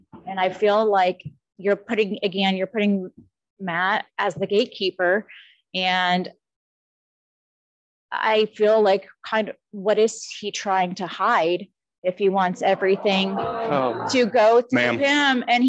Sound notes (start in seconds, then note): 12.8 audience moaning